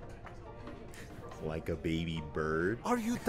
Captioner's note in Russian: смех